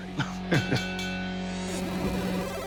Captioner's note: chuckles; bell rings